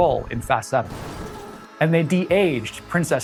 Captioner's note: car crashing